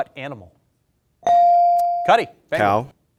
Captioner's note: bell dings